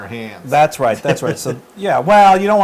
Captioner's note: laugh